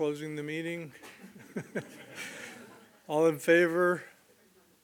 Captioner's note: laughs